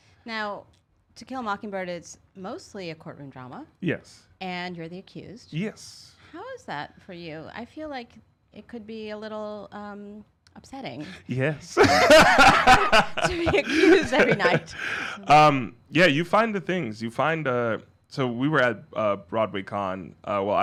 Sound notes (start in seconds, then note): 11.7 both laughing